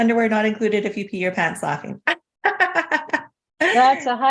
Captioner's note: laughs